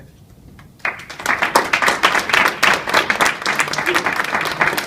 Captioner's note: applause